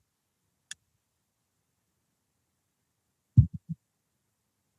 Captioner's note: silence